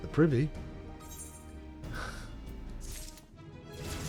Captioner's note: sigh